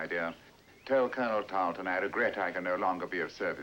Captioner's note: none